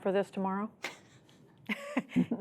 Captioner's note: laughter